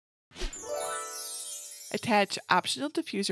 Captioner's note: gentle tinkling